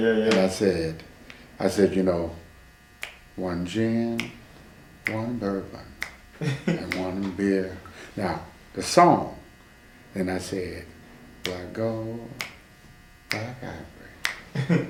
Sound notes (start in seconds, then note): 4.1 starts snapping his fingers to the beat; 14.2 snapping his fingers again